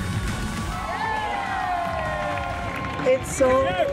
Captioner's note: cheering